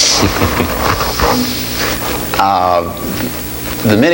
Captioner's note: laughs